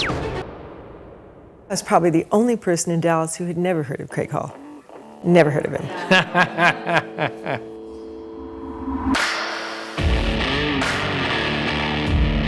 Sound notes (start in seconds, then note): 5.6 laughs; 10.0 upbeat rock music